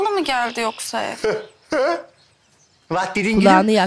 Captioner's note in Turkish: Gülme sesi